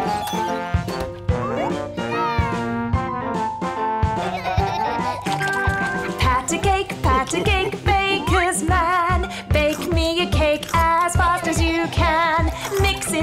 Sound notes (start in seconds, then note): 4.2 laughter